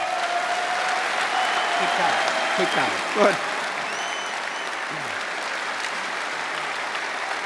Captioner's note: cheers and applause